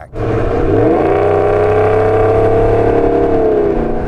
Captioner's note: car engine roaring